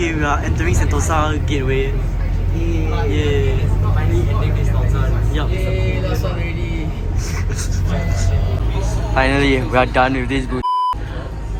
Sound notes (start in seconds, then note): 6.8 laughs